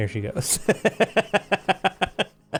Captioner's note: laughs